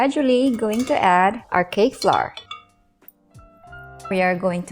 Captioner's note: bowl thuds